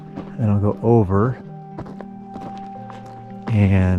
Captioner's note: footsteps crunching